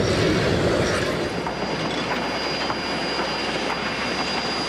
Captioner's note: train whirs